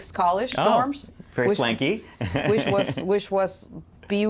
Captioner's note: laughter